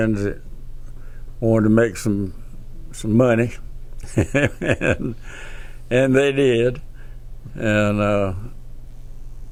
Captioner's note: laughs